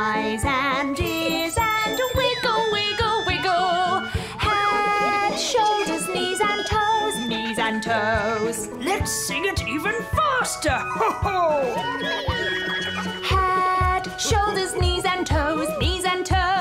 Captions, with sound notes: And eyes and ears and wiggle, wiggle, wiggle. Head, shoulders, knees and toes. Knees and toes. Let's sing it get even faster. [chuckles] (SINGING) Head, shoulders, knees, and toes.